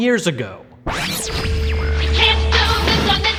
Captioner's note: electronic squeal